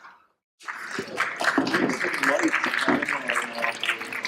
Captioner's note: applause